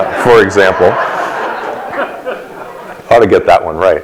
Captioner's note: laughter from audience